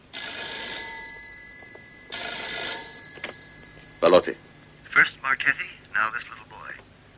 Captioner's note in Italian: trilli del telefono